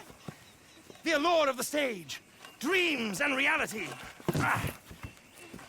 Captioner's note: sounds of effort